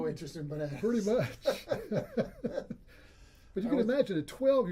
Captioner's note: laughs